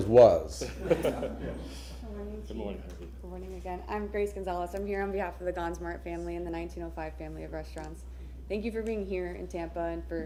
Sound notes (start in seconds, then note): 0.6 laughter